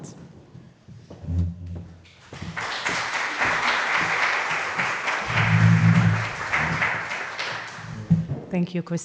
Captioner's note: applause